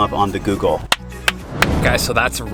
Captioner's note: claps